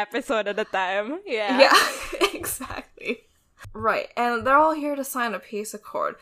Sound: laughing

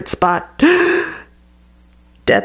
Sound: gasp

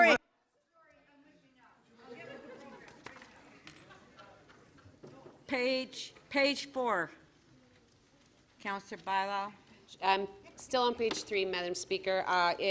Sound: laughter

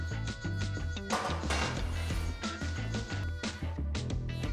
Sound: clanging

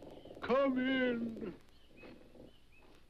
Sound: wood creaks

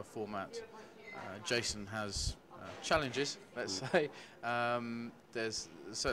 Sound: chuckles

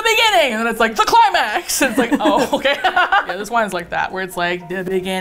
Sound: both laugh; singsong

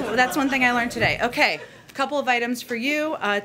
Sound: laughter

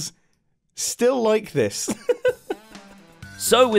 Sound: laughs

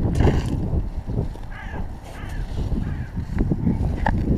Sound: A Crow crows

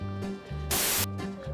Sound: pshh

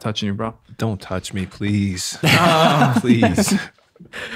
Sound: laughs

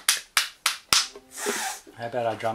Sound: snifff

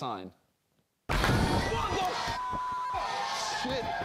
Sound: banging

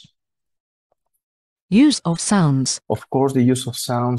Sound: voice-over

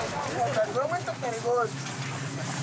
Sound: Portuguese spoken audio

